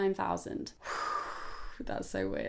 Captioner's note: outward breath sound